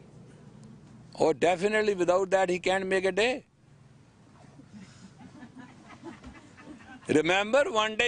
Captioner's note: Студенты смеются